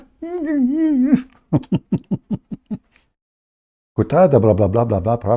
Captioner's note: Ketawa